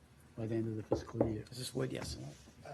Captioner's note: knocks